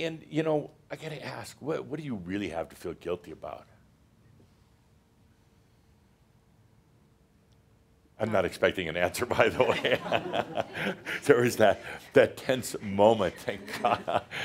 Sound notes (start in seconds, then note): 9.6 some laughter